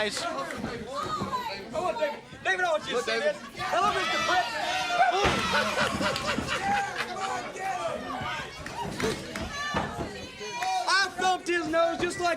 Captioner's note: crowd chatter